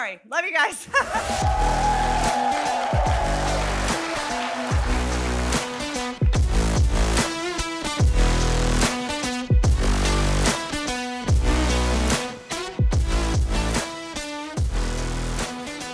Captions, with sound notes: Love you guys. (audience cheering) (upbeat music)